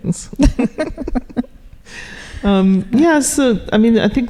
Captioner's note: laughing